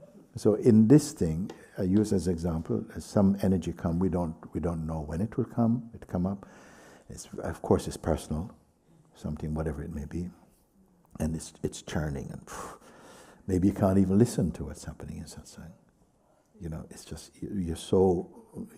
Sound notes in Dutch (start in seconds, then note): 12.0 ademt uit